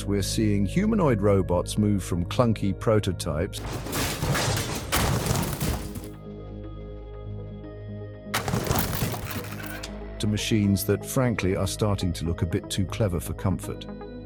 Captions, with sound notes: we are seeing humanoid robots move from clunky prototypes (robot crashes) to machines that frankly are starting to look a bit too clever for comfort.